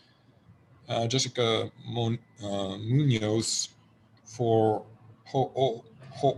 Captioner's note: faintly speaking